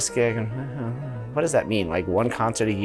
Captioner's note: noncommittal mumbling